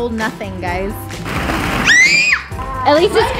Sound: balls shuffle; scream

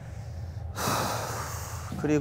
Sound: A deep sigh

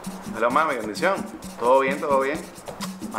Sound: speaks Spanish

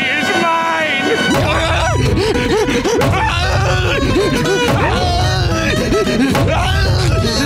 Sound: groaning, panting

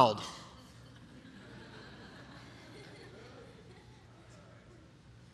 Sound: congregation laughing

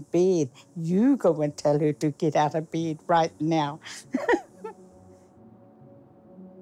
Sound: chuckles

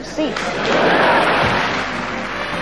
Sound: audience laughing

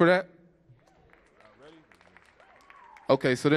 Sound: audience cheers and applauds

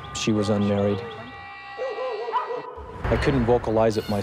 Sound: dogs barking

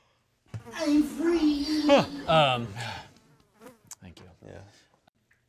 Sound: fly buzzing

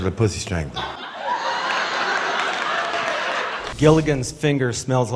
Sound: laughters

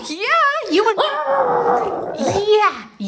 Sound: howling

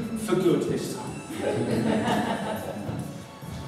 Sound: laughter

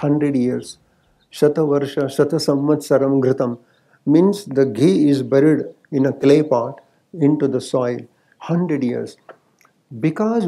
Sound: speaks in Sanskrit

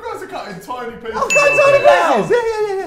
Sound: ding

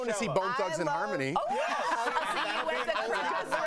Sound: laughter

